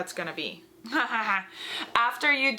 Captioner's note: laughs